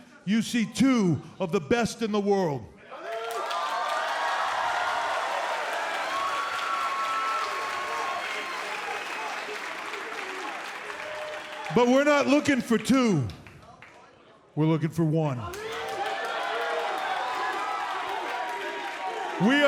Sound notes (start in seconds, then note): 3.3 crowd cheering; 15.4 crowd cheering